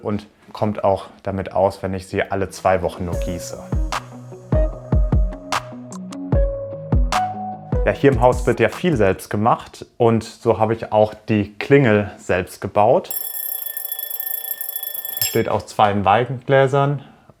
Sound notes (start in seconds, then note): 13.1 ringing